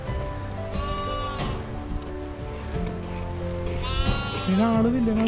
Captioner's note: goats bleating